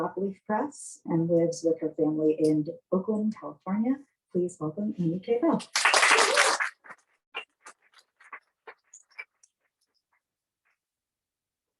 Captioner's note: applause